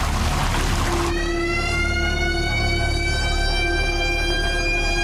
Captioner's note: siren sounds